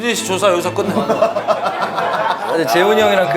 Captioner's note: ha ha ha ha ha